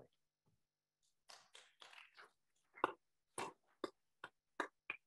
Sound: attendees applauding

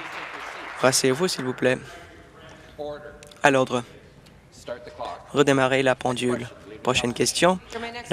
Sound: applause

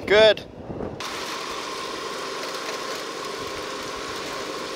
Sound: water splashing

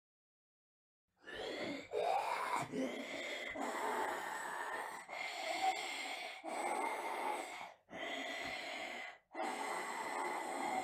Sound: sound of breathing

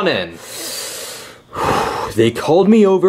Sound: mechanic inhaling and exhaling

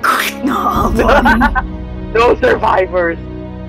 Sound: crack

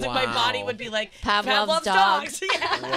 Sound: girls In Unison; laughing

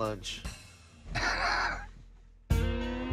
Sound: laughs

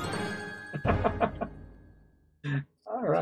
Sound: victory fanfare; chuckles

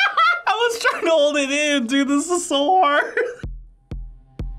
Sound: laughs; laughs

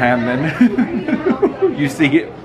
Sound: laughs

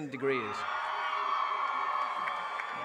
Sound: applause

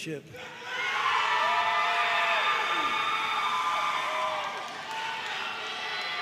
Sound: audience cheering and applauding

